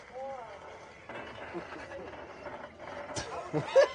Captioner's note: object rattling; burst out laughing